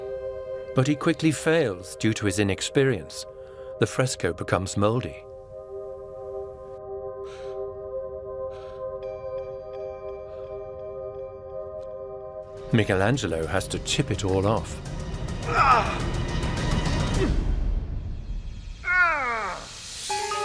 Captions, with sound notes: But he quickly fails due to his inexperience. The fresco becomes mouldy. Michelangelo has to chip it all off… [dramatic music] [Michelangelo groans]